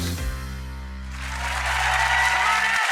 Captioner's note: applause